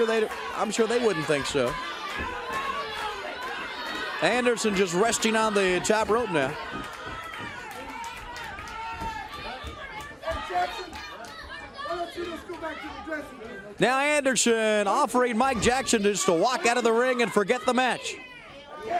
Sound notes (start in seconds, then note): 4.4 crowd chatter; 18.7 crowd chatter